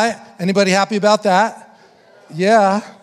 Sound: congregation affirming

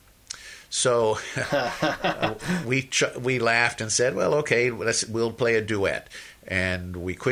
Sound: laughs

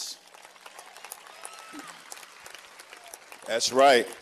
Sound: cheers and applause

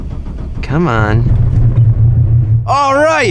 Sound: engine starts

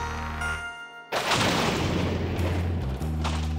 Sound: thunder

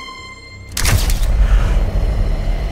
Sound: shutter sounds

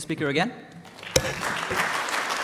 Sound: clapping

